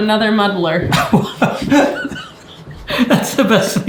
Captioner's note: laughing